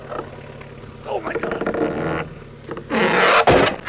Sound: wood slab creaks; wood slab thuds

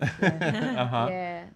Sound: laughing

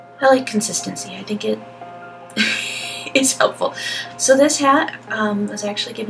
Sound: laugh

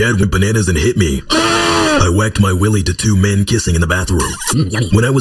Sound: aahhhhhhhh

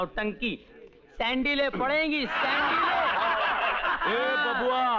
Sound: laughs

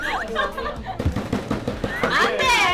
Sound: smack

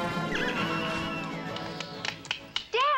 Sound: clapping

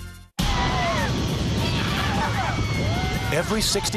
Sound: coaster whooshing; screams

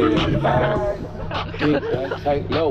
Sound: laughs

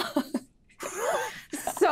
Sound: cast chuckling

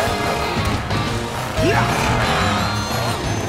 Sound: grunting

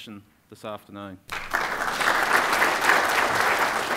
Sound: applause

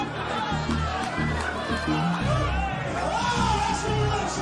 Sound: clapping

